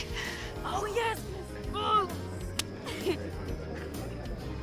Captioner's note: high-five clap